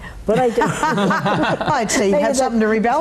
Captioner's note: all laugh